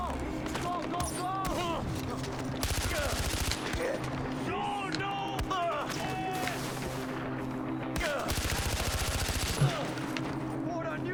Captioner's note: gunfire